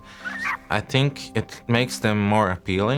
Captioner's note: lemur vocalising